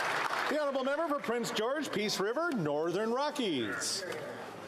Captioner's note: applause